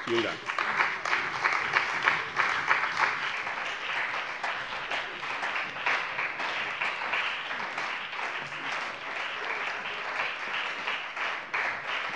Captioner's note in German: Beifall bei dem BÜNDNIS 90/DIE GRÜNEN und der CDU